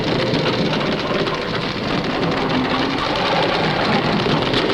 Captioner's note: wheel cranking